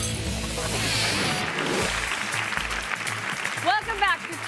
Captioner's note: audience applauds